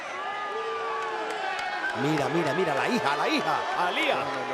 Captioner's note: applause